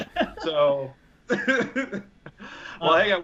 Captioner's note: laughter